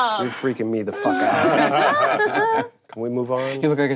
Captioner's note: group laughing